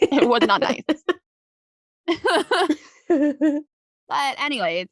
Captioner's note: laughing